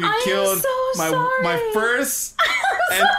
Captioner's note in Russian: Тиффи смеётся